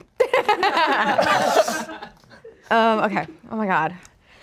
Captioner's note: laughs